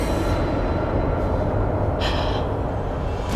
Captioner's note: gasps